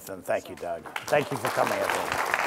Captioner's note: applause